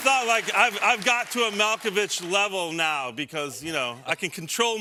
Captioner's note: applause